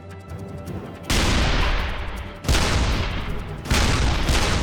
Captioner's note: 88s firing